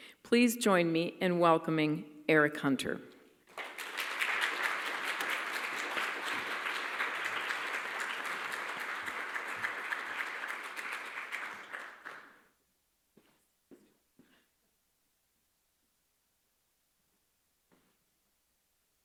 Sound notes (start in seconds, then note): 3.4 applause